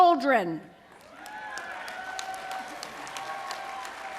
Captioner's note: applause